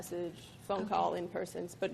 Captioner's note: woman's Voice